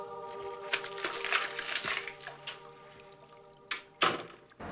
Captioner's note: water lapping